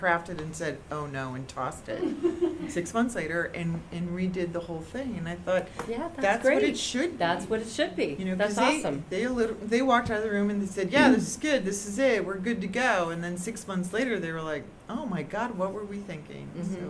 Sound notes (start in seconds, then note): 1.9 laughter